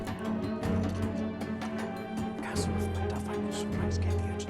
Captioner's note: whispering